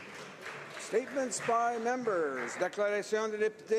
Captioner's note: some applause